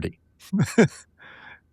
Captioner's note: laughing